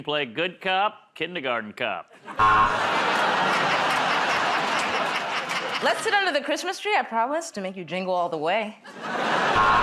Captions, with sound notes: We can play good cop, kindergarten cop. [ Buzzer ] [ Laughter ] -Let's sit under the Christmas tree. I promise to make you jingle all the way.